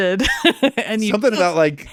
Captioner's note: laughing